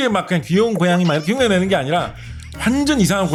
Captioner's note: humorous sound effect